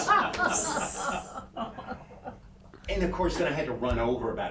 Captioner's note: everyone laughing